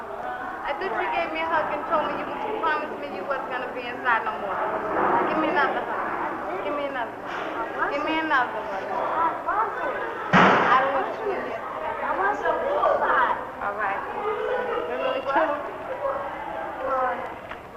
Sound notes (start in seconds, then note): 10.3 loud bang